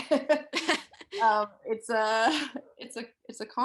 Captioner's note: they chuckle